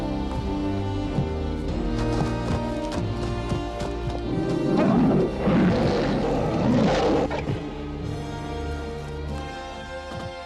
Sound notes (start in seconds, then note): 0.1 tense music grows; 4.2 bear roaring